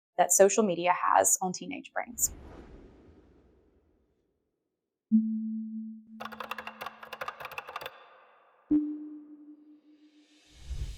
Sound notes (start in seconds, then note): 4.3 typing sounds